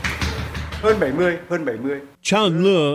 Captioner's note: man speaking Vietnam